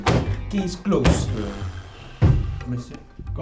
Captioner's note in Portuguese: big sighs; thud